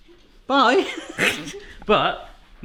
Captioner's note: laughing